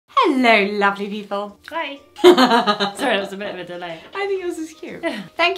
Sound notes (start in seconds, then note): 2.3 laughing